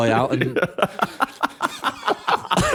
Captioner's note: laughter